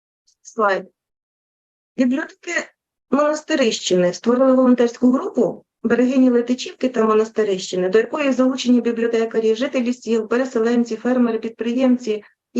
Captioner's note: foreign Language Spoken